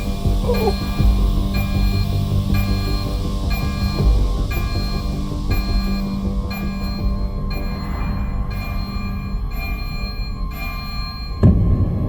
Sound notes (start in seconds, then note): 7.5 alarm blaring